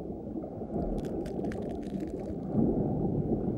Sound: crunching continues

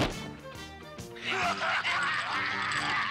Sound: laughing

